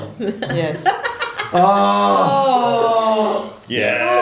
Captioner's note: groans